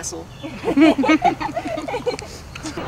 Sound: laughing

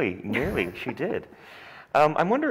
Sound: Martha chuckles

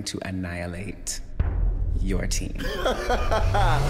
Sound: laughing

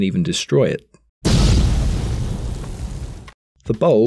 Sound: compressor exploding

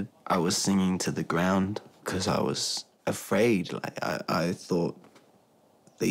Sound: none

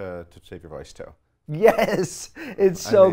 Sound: laughs

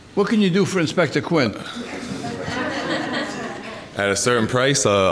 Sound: all laughing

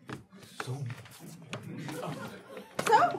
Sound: audience laughing

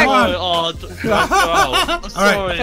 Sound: laughing

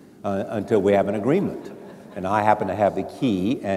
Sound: audience laughs

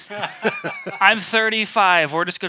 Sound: laugh

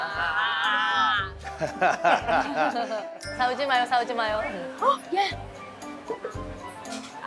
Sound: laughter

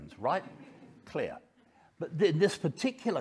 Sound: audience laughing

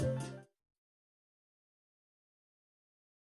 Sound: silence

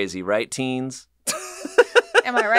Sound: laughs

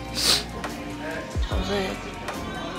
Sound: sniff

